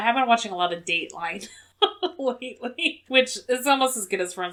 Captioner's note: laughs